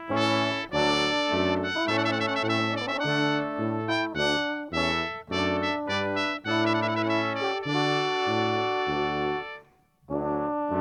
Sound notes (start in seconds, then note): none